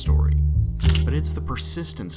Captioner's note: camera shutter